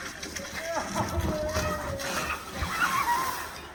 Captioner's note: water splashing